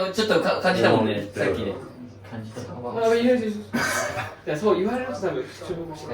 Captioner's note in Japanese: 笑い